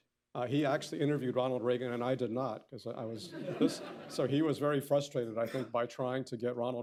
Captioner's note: laughter